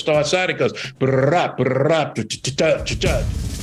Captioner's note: mimics drum sounds